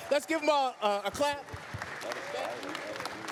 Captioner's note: applause